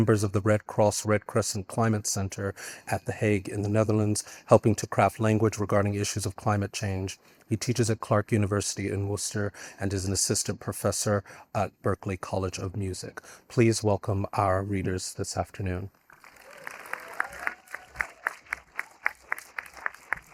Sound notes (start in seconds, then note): 16.1 audience applauding